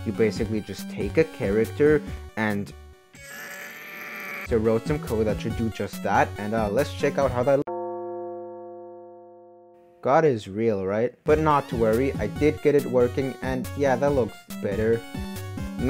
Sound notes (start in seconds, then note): 7.6 dissapointed bell sound